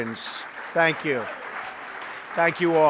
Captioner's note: applause